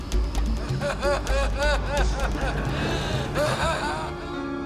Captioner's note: Medusa laughs